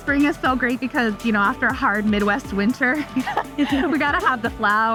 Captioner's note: laughs